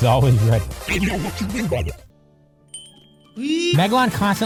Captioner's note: distorted voice